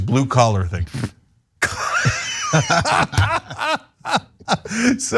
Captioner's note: laugh